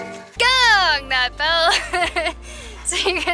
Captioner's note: laughter